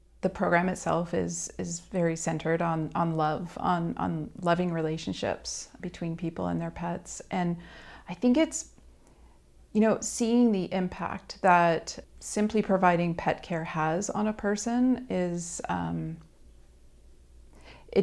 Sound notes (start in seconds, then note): none